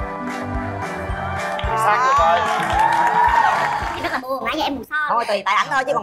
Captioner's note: applause